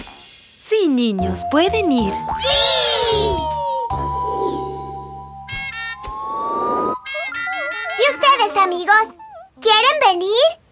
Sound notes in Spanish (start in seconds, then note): 5.1 Sonido de bocina